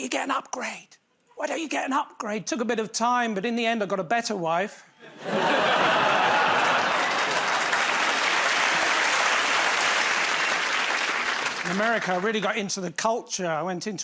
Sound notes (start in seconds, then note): 5.0 laughter; 8.0 applause